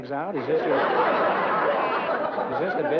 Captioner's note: laughter